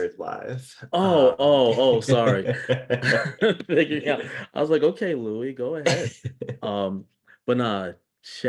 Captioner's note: chuckle